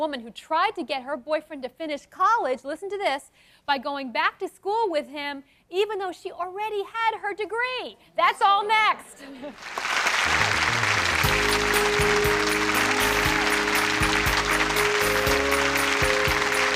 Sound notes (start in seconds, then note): 9.6 clapping; 12.3 light intro music